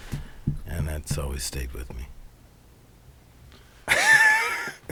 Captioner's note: laughs